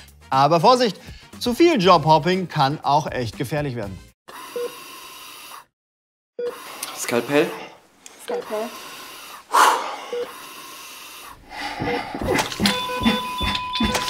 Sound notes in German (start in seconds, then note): 4.4 Langsames Piepsen; 11.5 Hektisches Piepsen